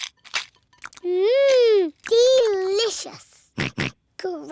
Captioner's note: george oinks